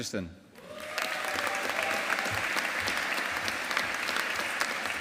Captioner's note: audience applauding